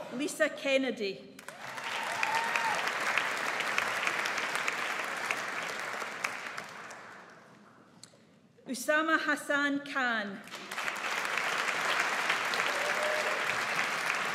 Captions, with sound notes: Lisa Kennedy. (AUDIENCE APPLAUDS) Usama Hassan Khan. (AUDIENCE APPLAUDS)